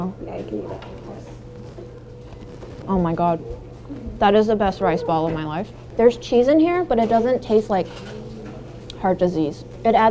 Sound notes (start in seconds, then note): 1.5 balls crunching